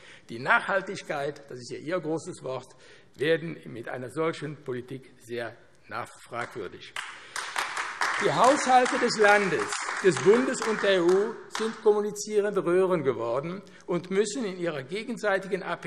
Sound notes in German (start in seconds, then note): 6.9 Beifall AfD